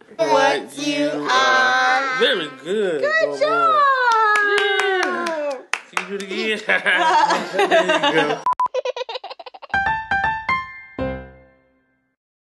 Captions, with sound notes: What you are. Very good. Good job! [laughing] [baby giggles]